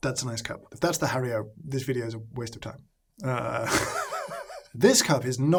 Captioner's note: laughs